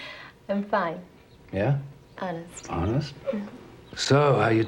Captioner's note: chuckling